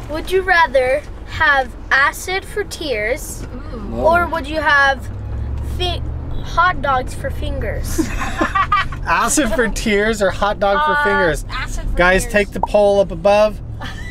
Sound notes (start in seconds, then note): 7.9 laughs